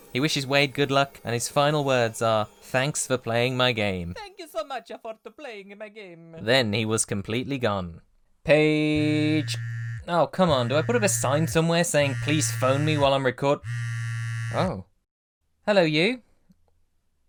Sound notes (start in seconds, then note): 4.1 faintly, as Mario; 10.6 phone vibrating